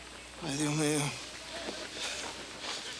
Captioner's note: Crecencio speaks Spanish